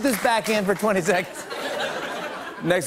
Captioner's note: laughter